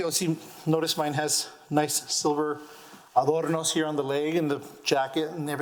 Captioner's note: none